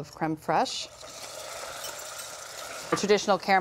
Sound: caramel sizzles

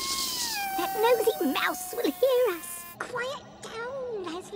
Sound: squeaking hiss; complaining meow; high-pitched helium voice

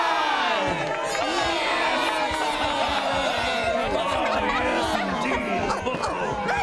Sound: cheering

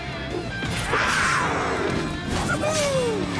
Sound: roaring

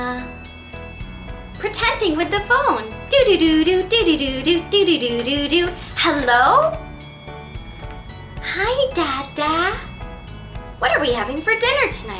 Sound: ringtone sound

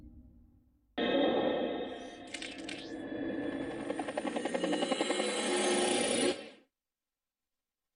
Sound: metallic and helicopter sounds

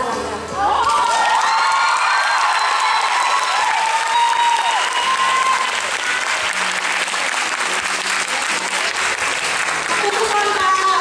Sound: cheering and Applaud

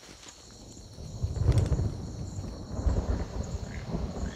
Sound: thunder

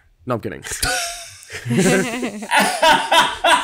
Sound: laughs

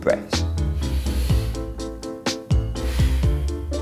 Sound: inhaling deep breath; exhaling breath

